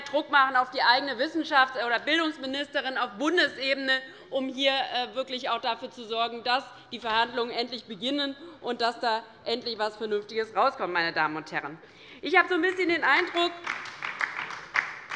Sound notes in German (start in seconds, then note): 10.7 Beifall bei der LINKEN